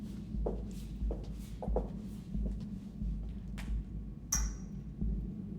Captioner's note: footsteps approaching